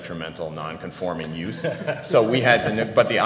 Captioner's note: laughter